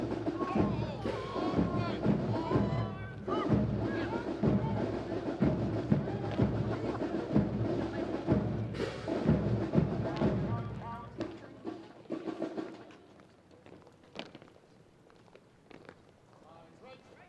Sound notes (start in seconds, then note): 0.1 drums; 3.3 multiple Troop Commanders shout direction; 7.7 drums